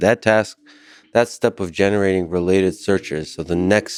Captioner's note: none